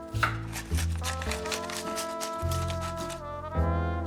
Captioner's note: paper tearing